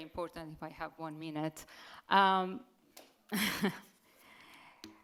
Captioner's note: chuckles